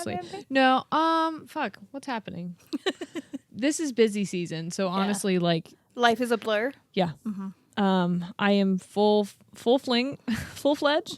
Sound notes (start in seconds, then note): 2.7 laughs